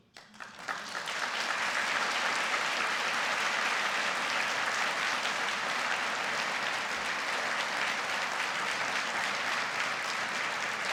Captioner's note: applause